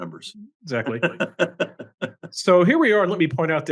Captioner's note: laugh